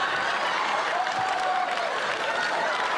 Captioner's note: laughter; cheers and applause